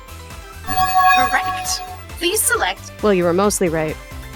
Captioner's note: bell chimes